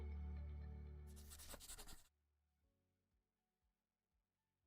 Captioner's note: pencil scribbling